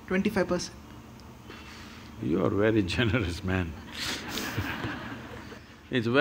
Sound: laughter

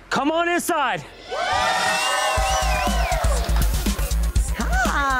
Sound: customers cheering

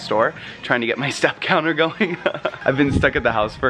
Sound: laughs

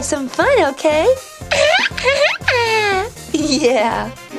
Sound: Jack-Jack giggles

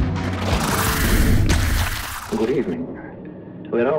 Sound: splash

